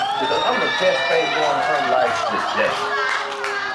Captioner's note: audience exclaiming